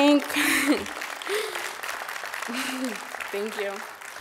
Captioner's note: applause